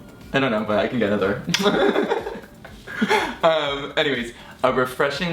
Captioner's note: laughing